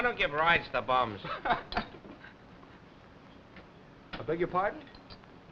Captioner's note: Bill laughing